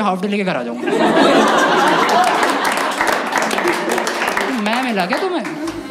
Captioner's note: laughs; Clapping